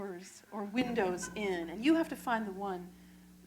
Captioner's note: laughter